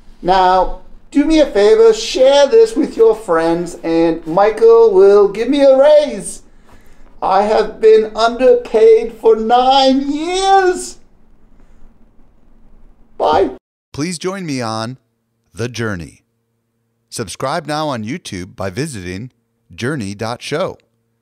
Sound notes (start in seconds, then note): 13.8 voiceover